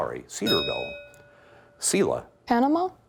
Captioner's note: bell ringing